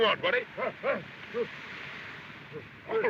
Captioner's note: grunting